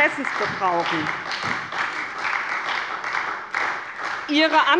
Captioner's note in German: Beifall bei der SPD